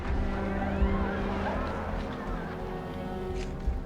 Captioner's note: people screaming